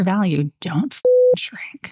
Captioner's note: beep